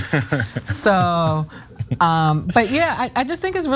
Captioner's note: laugh